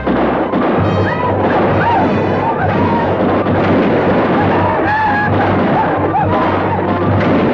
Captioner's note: guns fire; Apaches howl; guns fire